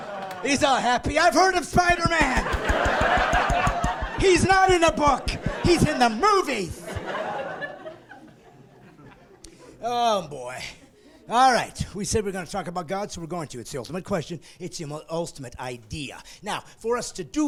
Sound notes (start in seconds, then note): 1.6 laughing; 10.5 laughing